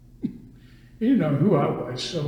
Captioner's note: laughs